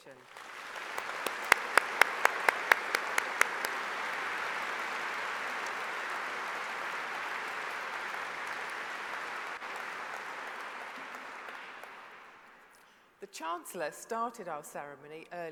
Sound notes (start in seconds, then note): 2.7 applause